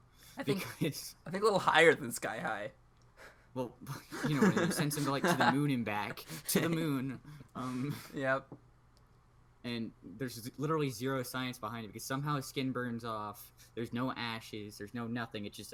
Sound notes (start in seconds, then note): 3.8 keeps laughing; 3.8 laughs